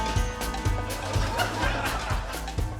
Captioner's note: laughter